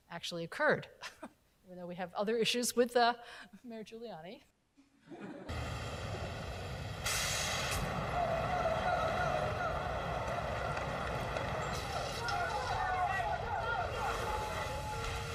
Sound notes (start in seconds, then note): 5.0 crowd laughing; 6.2 car engines roaring